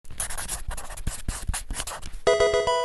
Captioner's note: marker scratching; electronic video game chime